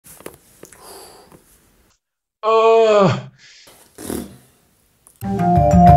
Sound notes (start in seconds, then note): 3.8 blows raspberry